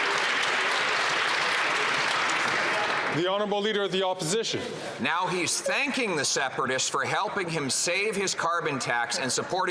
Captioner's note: applause